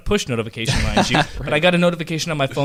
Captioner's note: laughs